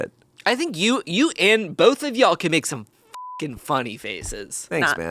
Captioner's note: beep